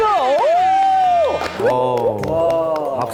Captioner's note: exclaiming